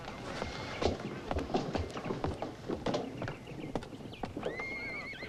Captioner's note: Henderson stomping